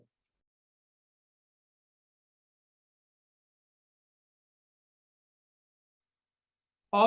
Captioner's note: audio cut during discussion of genus Arachis division into 9 sections